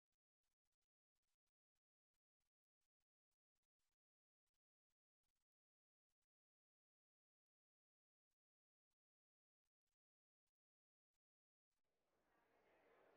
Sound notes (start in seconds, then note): none